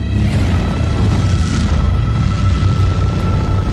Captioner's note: planes Roaring